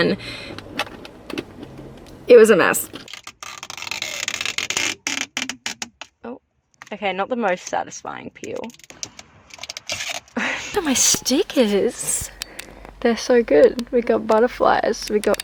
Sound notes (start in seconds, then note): 2.9 peeling sounds; 8.7 laugh